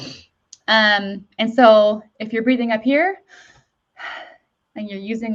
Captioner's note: breathes deeply